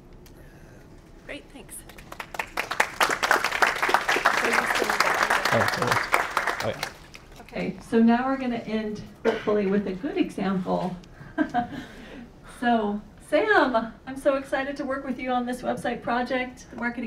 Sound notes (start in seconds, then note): 1.8 applause